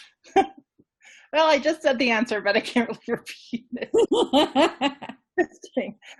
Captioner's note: laughing